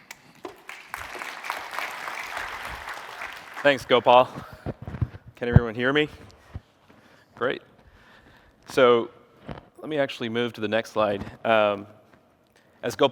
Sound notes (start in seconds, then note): 0.0 applause